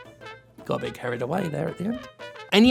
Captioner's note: quietly